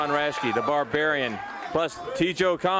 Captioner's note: crowd cheering